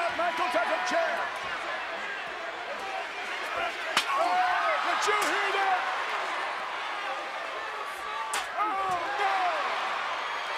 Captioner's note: applause